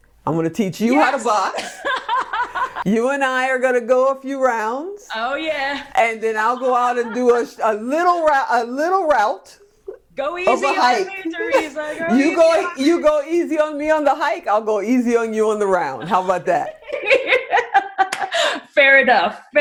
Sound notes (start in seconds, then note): 1.5 laughing; 15.9 laughing